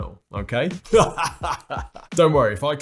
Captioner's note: laughs